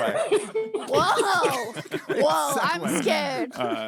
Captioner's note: laughing